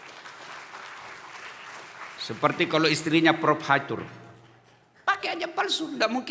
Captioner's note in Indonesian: tepuk tangan